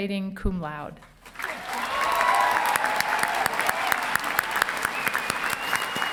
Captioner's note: audience cheering and applauding